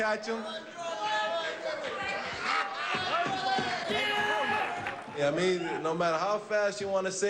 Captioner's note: shouts from audience